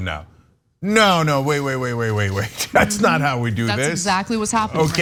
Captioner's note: laugh